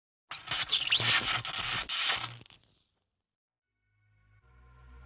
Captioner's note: electricity crackling